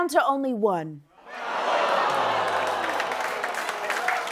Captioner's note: audience ohhhing; applause